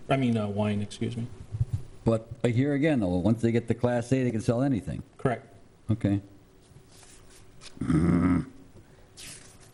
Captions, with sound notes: I mean wine, excuse me. - But here again though, once they get the Class A, they can sell anything. - Correct. Okay. (grunts)